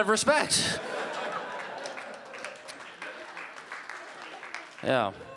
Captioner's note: audience laughing